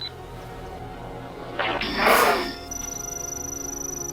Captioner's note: zapping and beeping, power shutting off